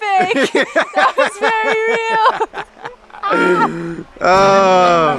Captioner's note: laughing; soaring violin music